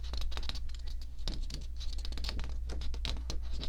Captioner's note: paper ruffling